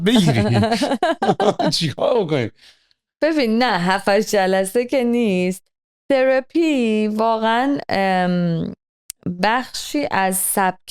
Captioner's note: laughter